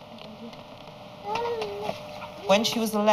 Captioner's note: groans